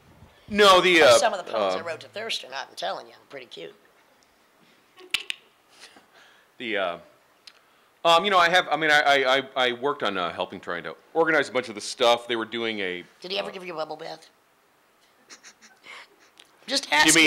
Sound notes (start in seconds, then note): 5.0 tongue clicks; 15.2 laughing